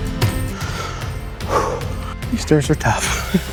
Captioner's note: heavy breathing